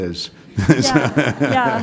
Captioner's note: laughs